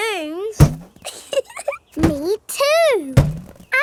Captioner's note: chuckles